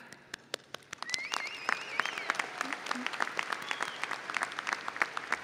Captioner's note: audience applauding